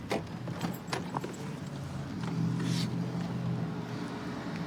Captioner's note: distant traffic hum